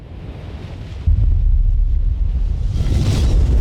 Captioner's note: waves crushing